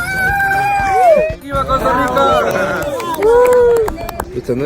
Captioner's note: clapping